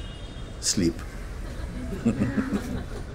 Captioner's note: laughter